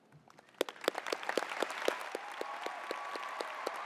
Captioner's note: applause